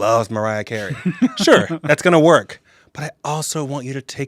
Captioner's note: laughs